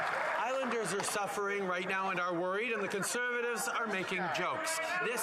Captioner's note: cheering and Applause